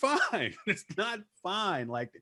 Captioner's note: laughing